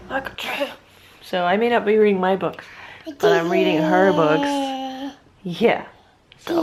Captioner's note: baby noises